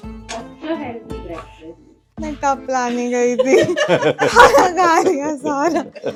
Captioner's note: laughter